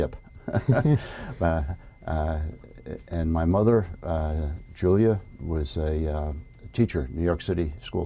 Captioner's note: laughter